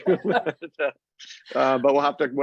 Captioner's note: laughing